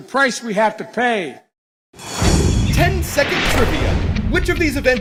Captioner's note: voice-over